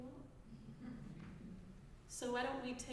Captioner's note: audience chuckling